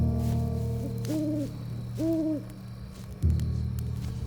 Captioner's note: owl hooting